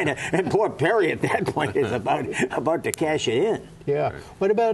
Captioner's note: laughter